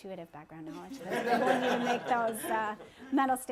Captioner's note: laughter